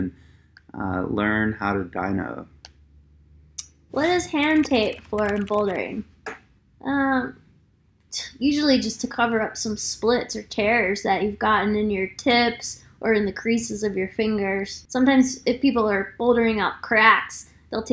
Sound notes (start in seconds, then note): 4.0 keyboard clicking